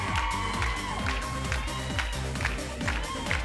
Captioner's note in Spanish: Palmadas al compás; Gritos y exclamaciones; Palmadas al compás